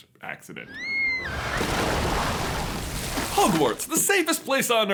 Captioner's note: wailing and water splashing